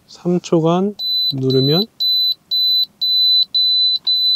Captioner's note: Warning sound